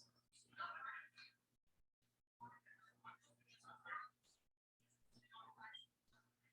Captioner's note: people chattering indistinctly